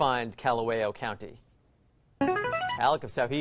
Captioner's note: player buzzer